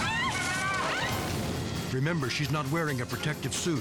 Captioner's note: screams; explosion booms